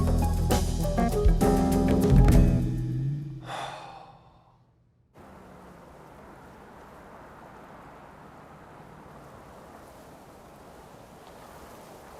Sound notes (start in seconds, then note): 0.0 mellow jazz music; 3.4 sighs; 5.2 car engine whirring